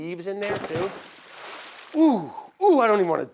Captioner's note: water splashes